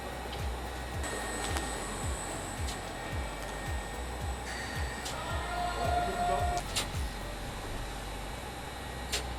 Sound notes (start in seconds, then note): 2.5 crowd cheering